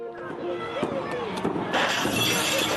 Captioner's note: overlapping yelling; glass breaking